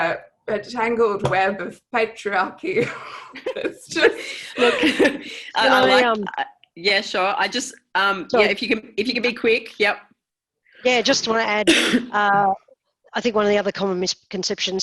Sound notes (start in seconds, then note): 2.8 laughter